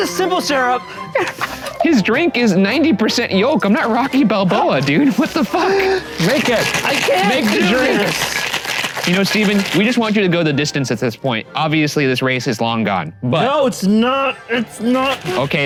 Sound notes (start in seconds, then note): 8.5 mixer shaking